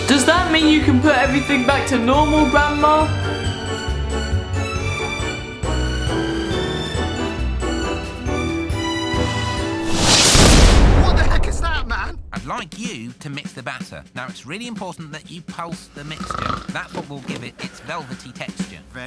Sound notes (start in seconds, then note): 3.5 bright music; 10.3 thunder rumbles; 15.9 Grandma snoring